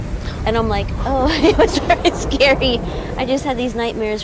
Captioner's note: laughs nervously